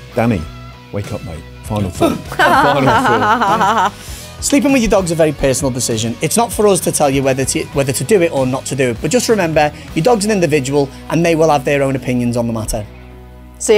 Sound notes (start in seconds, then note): 2.3 laughs; 2.3 exclaims